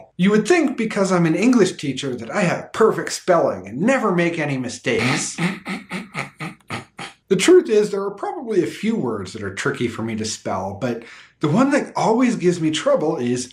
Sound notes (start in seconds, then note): 5.0 sarcastic laughter